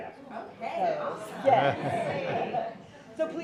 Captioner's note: laughter